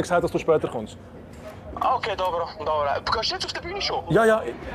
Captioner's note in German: Mann am Telefon